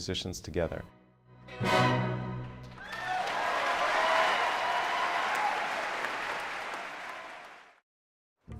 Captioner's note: applause